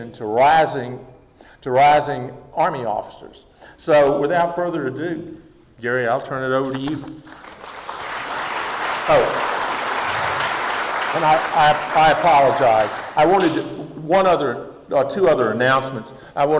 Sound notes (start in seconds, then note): 7.2 audience applauding